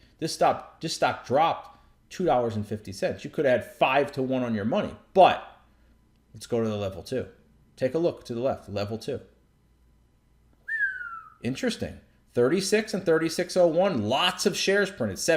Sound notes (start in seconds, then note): 10.6 whistling